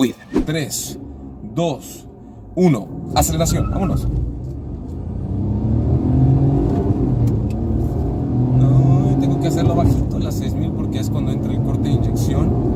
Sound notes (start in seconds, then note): 2.7 engine revving